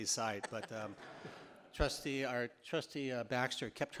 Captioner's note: audience laughing